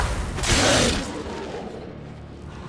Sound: snarl

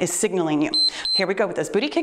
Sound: timer beeps

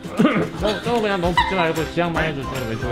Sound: laughing

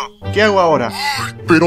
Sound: frustrated Growl

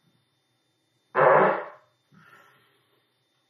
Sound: loudly farts

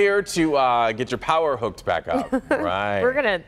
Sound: laughter

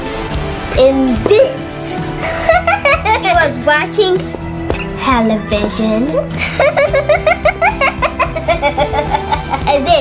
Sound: laughs

